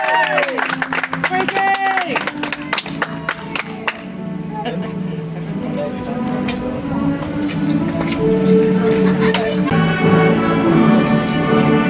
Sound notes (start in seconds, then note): 2.2 audience applauds; 6.5 soft music